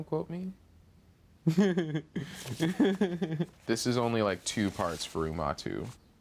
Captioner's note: laughs